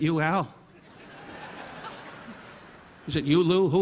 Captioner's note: audience laughing